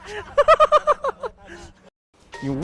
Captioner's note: laughs